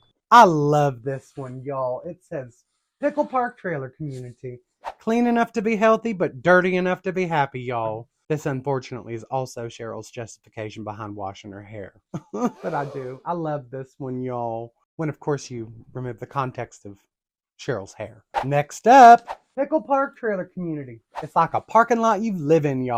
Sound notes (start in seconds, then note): 12.1 filthy chuckle